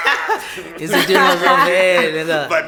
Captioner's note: everybody laughs